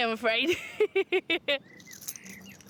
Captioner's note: laughs